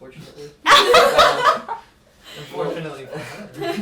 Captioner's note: group laughs